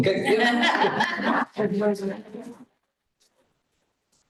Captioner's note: laughter